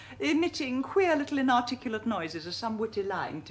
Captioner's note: none